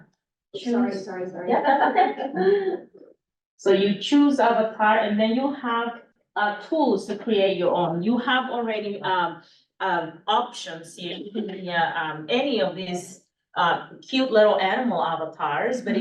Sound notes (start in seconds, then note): 0.6 laughs